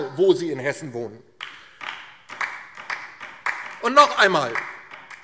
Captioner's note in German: Beifall DIE LINKE